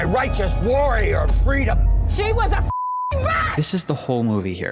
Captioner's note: beeping